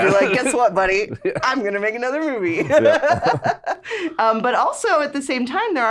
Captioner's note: laughs